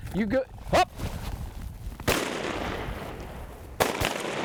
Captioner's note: guns bangs